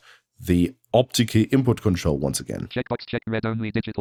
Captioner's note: automated voice